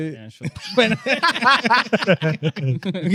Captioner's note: laughing